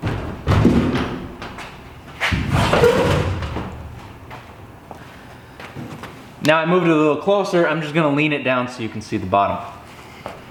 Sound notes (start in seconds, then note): 0.1 machine thuds; 2.6 metal screeching